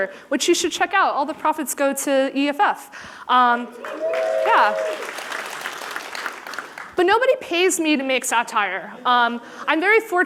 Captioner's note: applause